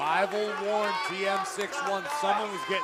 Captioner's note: crowd cheering